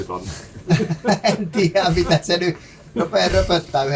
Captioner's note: laughter